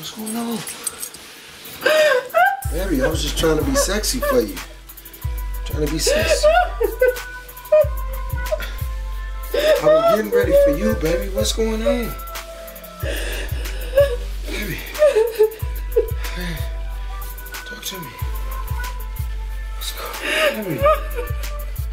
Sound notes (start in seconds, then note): 7.2 Renee cries